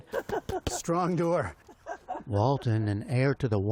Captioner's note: laughter